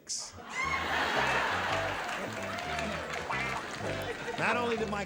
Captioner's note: laughter